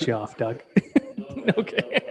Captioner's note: laughing